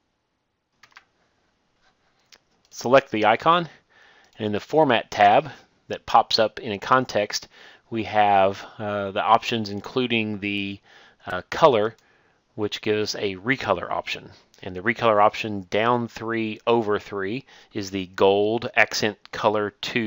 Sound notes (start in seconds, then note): 11.9 click